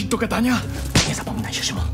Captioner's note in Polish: dźwięk plaśnięcia na twarzy